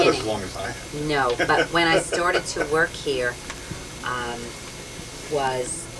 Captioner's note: laughter